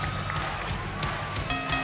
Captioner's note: bell ringing